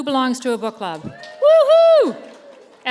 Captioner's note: cheers